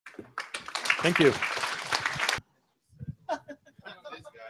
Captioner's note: applause